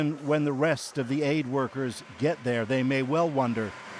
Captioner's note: speaking alternate language